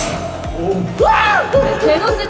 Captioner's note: ahhhh!